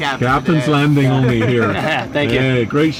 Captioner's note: laughing